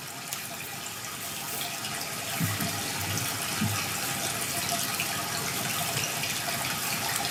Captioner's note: water trickling continues